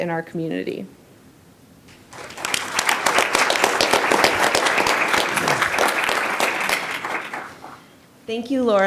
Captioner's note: applause